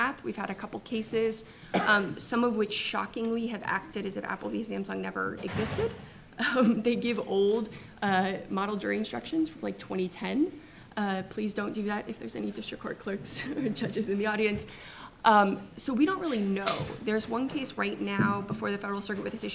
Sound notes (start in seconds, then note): 6.2 chuckles; 13.5 audience chuckling